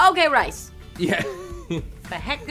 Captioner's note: chuckles